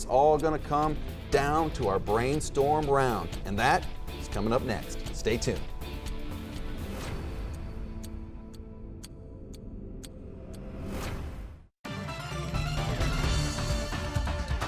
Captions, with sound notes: It's all gonna come down to our Brainstorm round. And that is comin' up next. Stay tuned. (upbeat music) (clock ticking) (upbeat music)